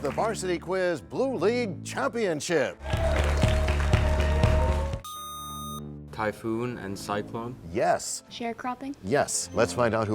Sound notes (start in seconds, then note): 2.8 cheers and applause